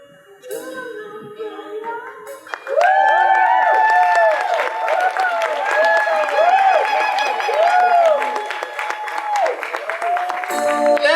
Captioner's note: audience applause